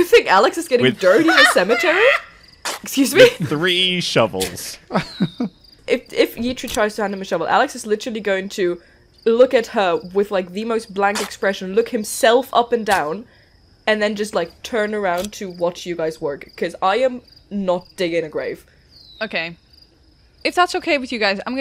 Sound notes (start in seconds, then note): 0.8 laughter; 4.3 sounds of a shovel digging into the ground